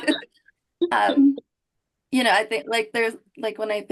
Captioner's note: chuckle